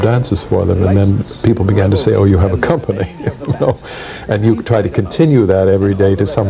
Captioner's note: laughs